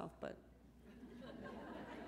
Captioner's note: laughter